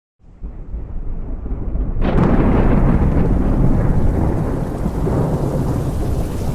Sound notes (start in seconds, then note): 0.2 thunder rumbling; 3.6 rain pattering